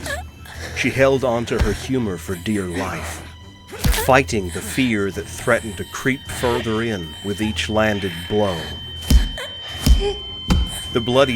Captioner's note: more strikes, more labored gasps, loud ear whine fades in